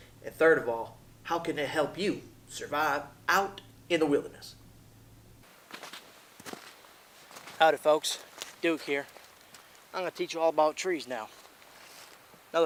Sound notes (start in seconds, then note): 5.4 boots crunching